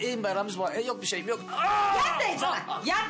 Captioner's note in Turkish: Bağırıyor